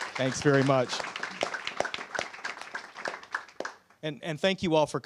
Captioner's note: applause